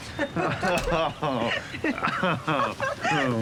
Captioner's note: both laugh